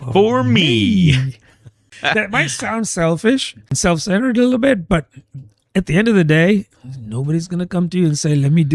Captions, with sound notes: for me [UH] that might sound selfish and self -centered little bit. But at end day, nobody's come you and say me